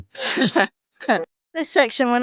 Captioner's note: laughs